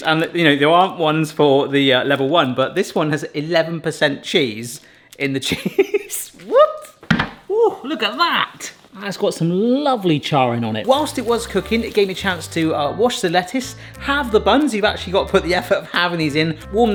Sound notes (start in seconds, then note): 6.0 laughs